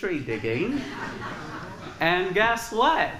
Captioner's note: laughter